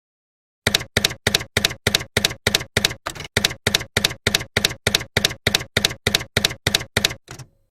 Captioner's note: typewriter keys clacking